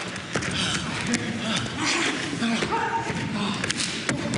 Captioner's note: grunts and thuds